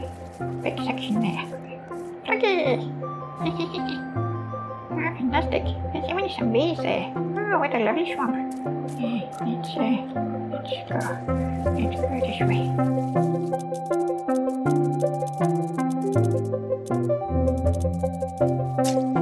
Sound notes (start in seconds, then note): 3.5 giggles